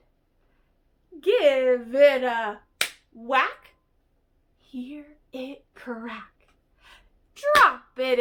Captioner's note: clap